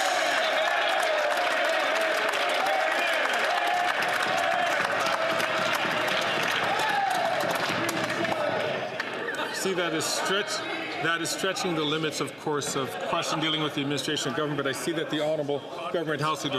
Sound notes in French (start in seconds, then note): 0.0 applaudissements